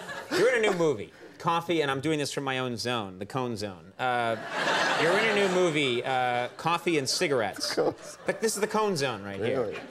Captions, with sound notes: You're in a new movie, Coffee, and I'm doing this from my own zone, the Cone zone. (audience laughing) You're in your new movie, Coffee and Cigarettes. The Cone zone. This is the Cone zone right here.